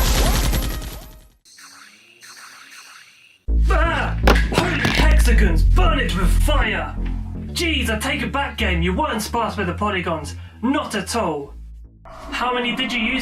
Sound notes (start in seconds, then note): 4.2 dropping phone